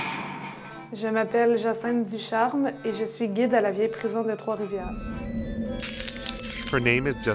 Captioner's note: speaking french